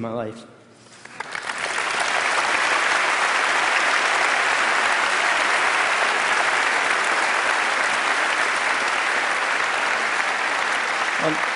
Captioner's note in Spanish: Aplausos